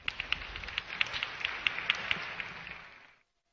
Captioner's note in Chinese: 掌聲